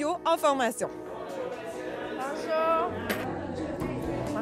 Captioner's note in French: brouhaha de foule